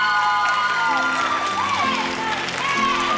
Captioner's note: cheering